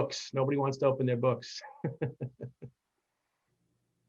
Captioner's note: laughs